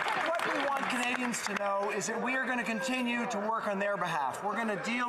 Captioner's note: some Applause